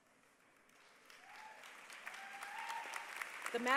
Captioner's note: applause